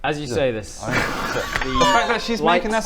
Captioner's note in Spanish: risa nerviosa